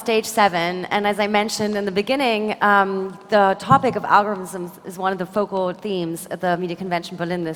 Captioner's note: applause